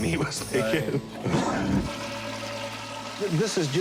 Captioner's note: toilet flushing